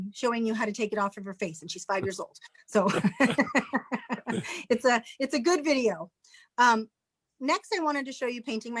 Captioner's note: chuckles